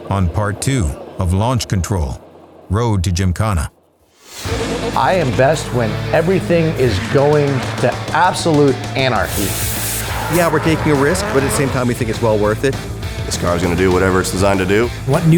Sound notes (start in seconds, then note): 4.3 upbeat music; 9.5 water splashing; 10.4 car engine roaring